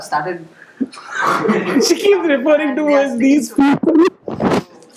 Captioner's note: laughs